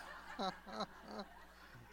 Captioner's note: laughter